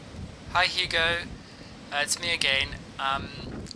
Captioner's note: augusto, on voicemail recording